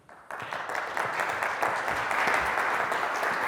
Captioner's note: audience claps